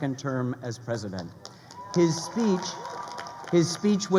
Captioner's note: crowd cheering